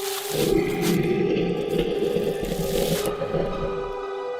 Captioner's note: creature growling